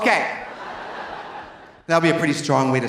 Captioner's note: audience laughing